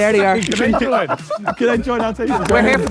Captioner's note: camera clicks